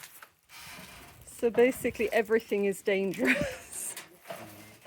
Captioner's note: laughing